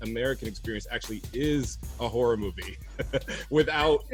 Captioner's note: chuckles